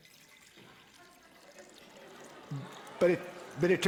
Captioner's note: audience responds tentatively